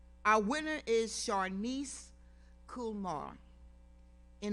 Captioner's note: none